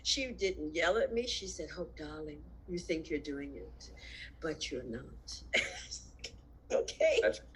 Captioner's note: laughs